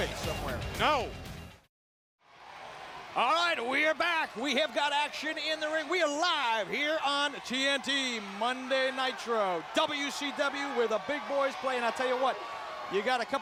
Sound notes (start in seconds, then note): 2.2 crowd cheering